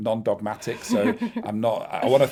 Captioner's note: chuckling